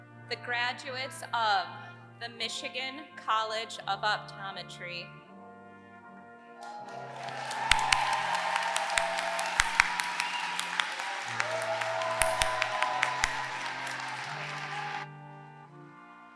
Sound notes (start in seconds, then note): 6.7 applause